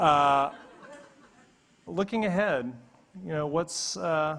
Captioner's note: audience laughing